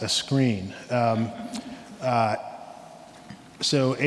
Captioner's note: laughs